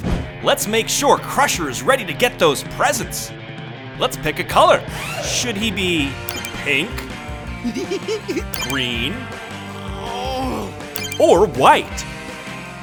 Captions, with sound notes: Let's make sure Crusher is ready to get those presents. Let's pick a color. Should he be pink? [giggling] Green? [groaning] Or white?